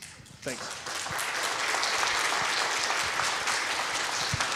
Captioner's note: people clapping